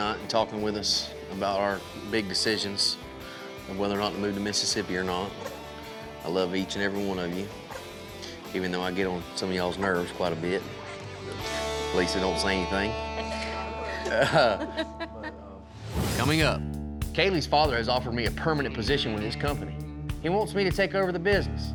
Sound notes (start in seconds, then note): 12.9 everyone chuckles